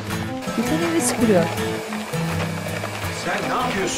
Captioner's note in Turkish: Elektrikli süpürge sesi